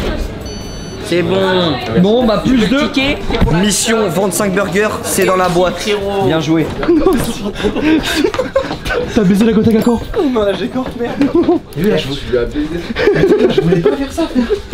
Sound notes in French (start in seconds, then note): 6.8 rires; 11.3 rire